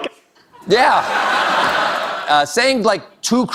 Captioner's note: audience Laughter